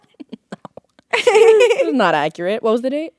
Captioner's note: laughing